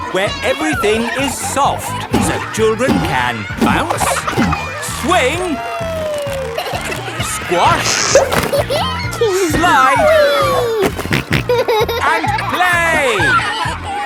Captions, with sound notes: Where everything is soft, so children can bounce, -swing... -Whee. -Squash... -(GIGGLES) -Slide... -(SNORTING) And play!